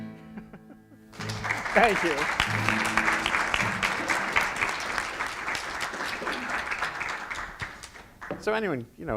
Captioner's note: applause